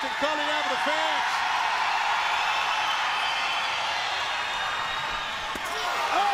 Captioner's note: crowd cheering